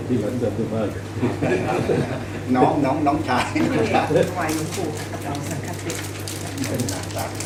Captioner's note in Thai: พูดคุย